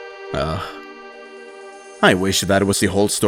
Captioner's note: sigh